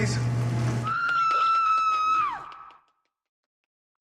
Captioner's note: woman screams